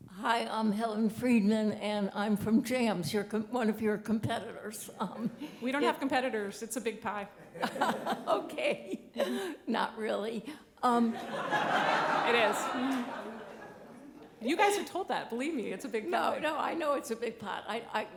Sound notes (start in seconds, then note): 11.1 audience laughing